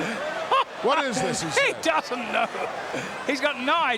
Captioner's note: laugh